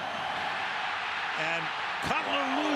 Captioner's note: cheering